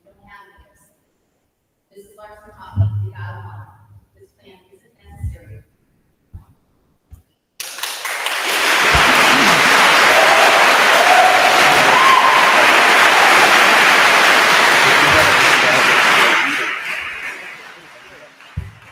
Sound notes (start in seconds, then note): 7.9 attendees applauding; 8.0 attendees cheering